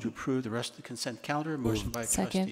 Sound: board member mumbles

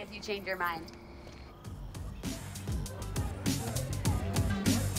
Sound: indistinct chatter

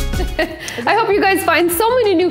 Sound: laughs

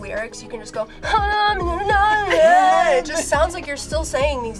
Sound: whines melodically

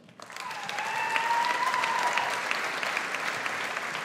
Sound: audience applauds

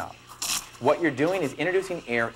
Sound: machine sprays out steam

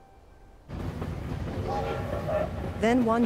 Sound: train whistle blows

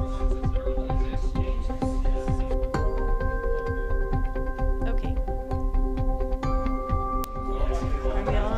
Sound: people chattering

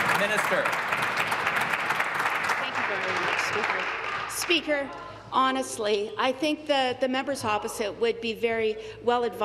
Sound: applause

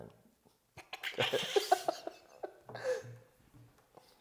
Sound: laughing

